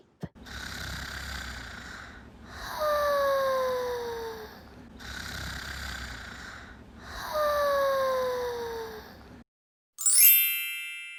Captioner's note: snoring